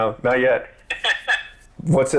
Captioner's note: laughs